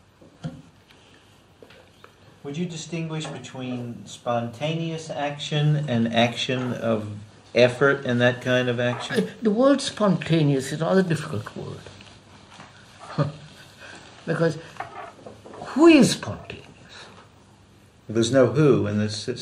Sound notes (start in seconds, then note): 13.0 laughs